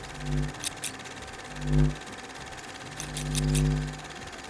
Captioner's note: scissors snipping